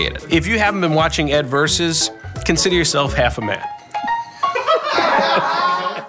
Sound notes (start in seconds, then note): 4.5 laughs